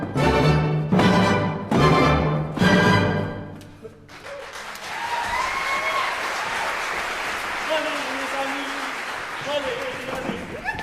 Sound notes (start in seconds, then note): 4.0 applause